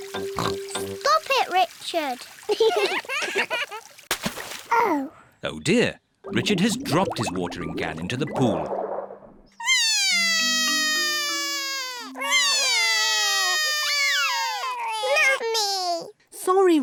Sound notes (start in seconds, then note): 0.3 oinks; 2.5 both laugh; 9.6 both crying